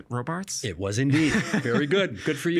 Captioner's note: laughing